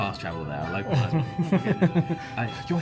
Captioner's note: laughs